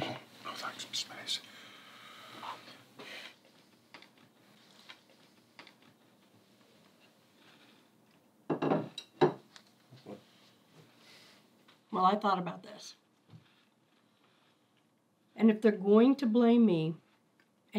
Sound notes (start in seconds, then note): none